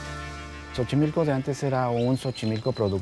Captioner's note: speaking Spanish